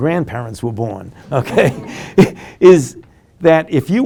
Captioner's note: laughing